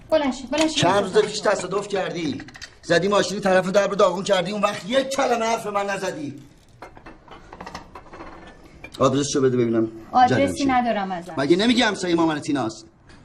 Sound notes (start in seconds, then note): 6.4 clanking sound